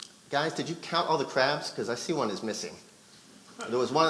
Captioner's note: none